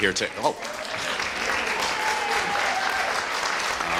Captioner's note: audience cheering